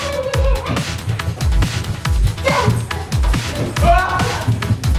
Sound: techno music; running up and down stairs

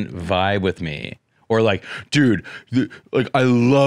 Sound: derpy voice

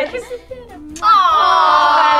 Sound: lips smacking

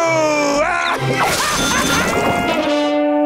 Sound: laughing

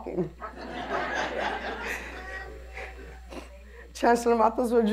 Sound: laughter

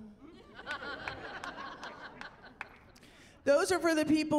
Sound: laughing

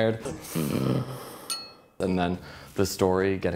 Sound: glass clinks

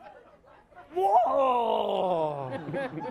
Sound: high-pitched grunting; laughing

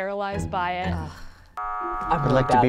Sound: buzzer buzzing

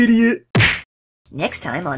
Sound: smack

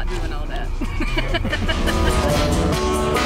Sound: laughter; pumping electronic music

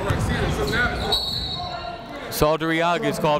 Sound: whistle

